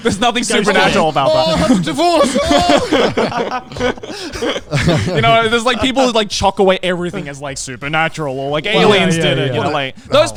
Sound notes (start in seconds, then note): 4.3 yelling